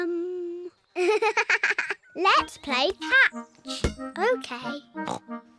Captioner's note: giggles